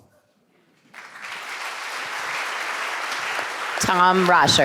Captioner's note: audience applauding